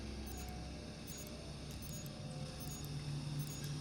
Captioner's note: device ticking